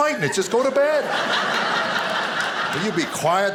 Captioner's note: audience laughing